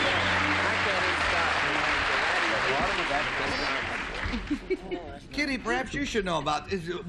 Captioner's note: applause; chatter